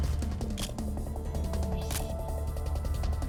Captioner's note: camera shutter click